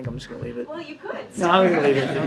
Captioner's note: laughter